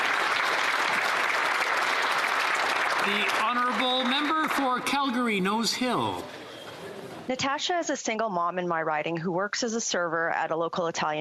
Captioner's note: some Applause